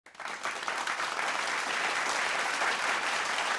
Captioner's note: applause